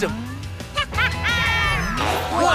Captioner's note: laughing